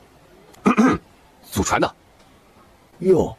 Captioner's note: ahem